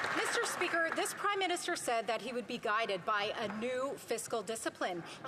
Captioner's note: some Applause